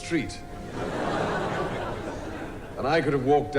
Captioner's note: crowd laughing